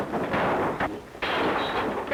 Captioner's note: crashing; bottles breaking